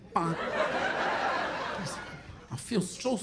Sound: laughter

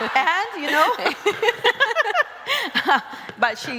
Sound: laugh

